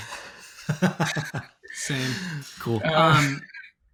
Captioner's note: laughing